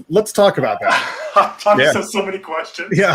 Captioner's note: laughing